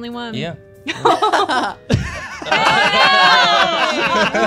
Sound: laughter

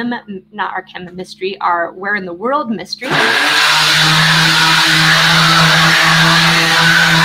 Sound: loud construction noise

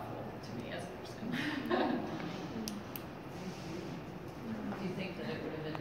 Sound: laughter

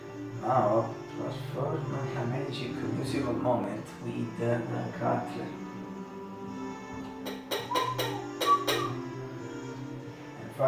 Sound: whistle

